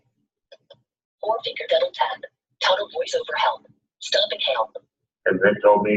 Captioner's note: system voice